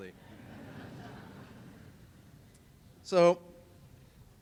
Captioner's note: laughter